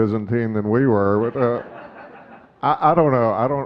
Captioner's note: audience laughing